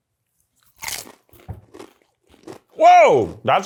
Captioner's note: chips crunching